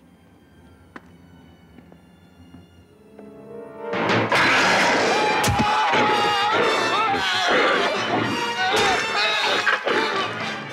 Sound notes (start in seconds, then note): 0.2 suspenseful music; 4.4 Donald growls; 4.4 Turner yells